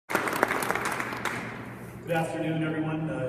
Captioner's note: clapping